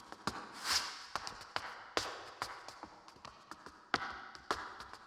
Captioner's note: shoes clacking